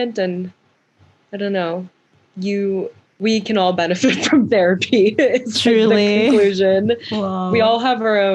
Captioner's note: laughs